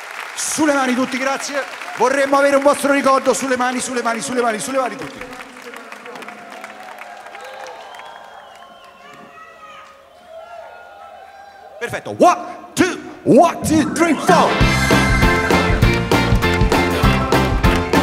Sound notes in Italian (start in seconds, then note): 9.0 Applauso